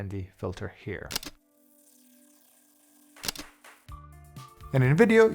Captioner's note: camera shutter clicks